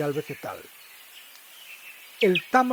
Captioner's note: birds' chirping